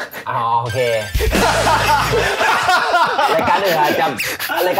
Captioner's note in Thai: หัวเราะ